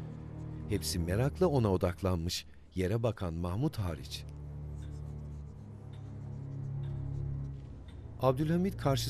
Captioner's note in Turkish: Müzik - Gerilim; Yazı yazma sesi